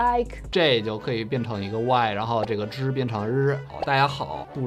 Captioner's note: speaking in Mandarin